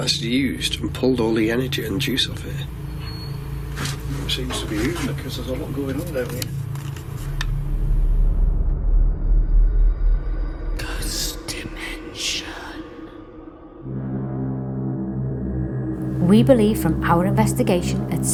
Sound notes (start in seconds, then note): 8.8 ominous music; 11.4 ghostly Voice; 14.4 dramatic music